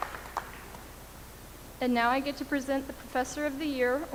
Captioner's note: applause